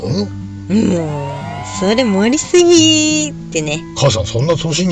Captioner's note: laughs